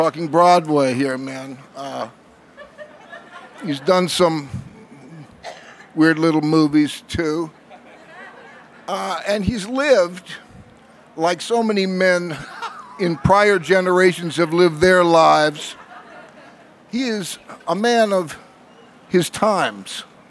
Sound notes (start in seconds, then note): 2.5 laughing; 7.7 laughing; 12.3 laughing